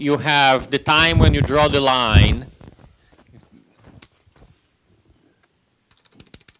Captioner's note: computer keys clicking